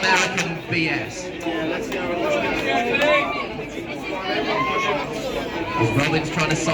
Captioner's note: cheers of encouragement